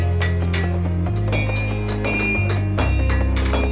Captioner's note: clanks; hammers; upbeat music